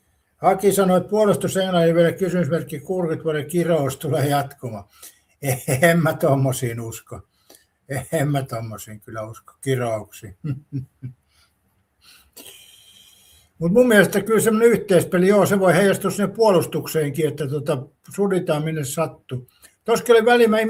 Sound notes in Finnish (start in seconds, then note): 10.3 naurua